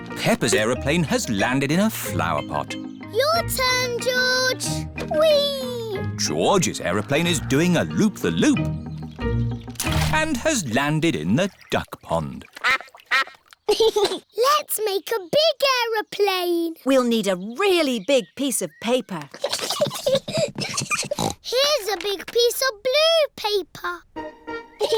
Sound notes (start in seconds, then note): 12.5 quacking; 13.6 giggles; 19.4 snorts; 24.8 both giggling